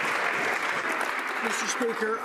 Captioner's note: some Applause